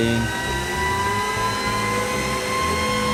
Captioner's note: industrial noise